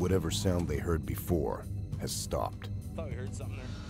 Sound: voiceover

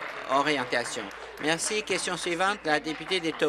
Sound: applause

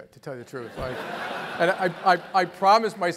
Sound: laugh

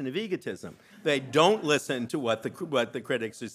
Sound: audience laughing

